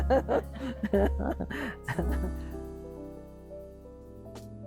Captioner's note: chuckling